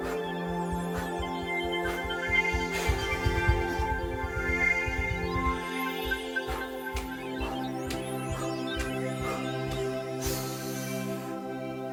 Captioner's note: electronic space sounds